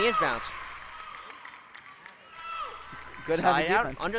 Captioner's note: crowd cheers